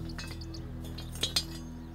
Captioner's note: clattering